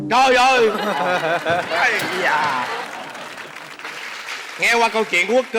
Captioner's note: laughing; applause